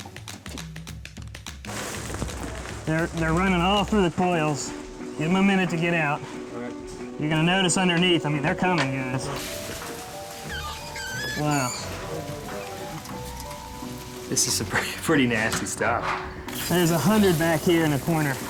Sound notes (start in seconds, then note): 9.4 squeaking